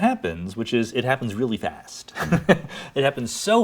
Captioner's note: laughs